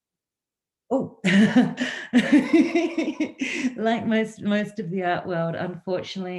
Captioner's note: laughs